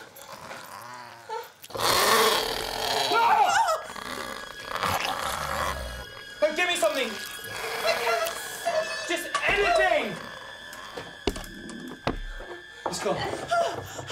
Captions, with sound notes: [squishy sounds] [snarling] Get me something! I can't see! Just anything! It's gone.